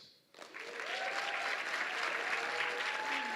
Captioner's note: applause